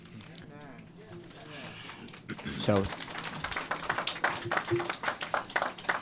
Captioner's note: applause